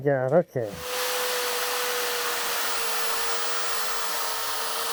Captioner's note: sander humming